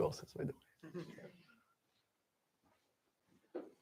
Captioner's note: laughter